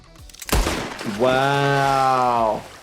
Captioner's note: gunshot cracks